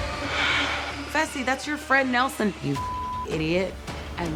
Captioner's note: beep